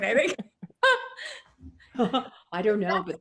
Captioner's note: laughing